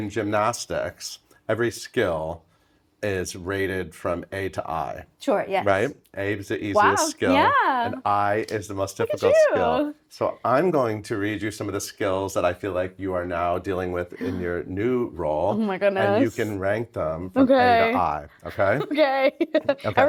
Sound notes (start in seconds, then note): 14.2 Laurie gasping; 17.4 laughing